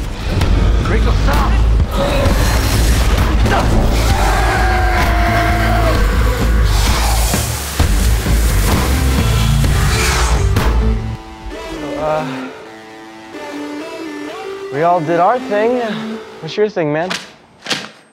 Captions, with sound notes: - Rachel stop! (grunts) (Rachel screams) - Uh We all did our thing What's your thing, man?